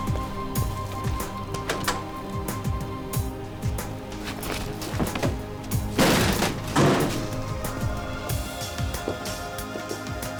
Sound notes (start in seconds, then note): 6.0 door bangs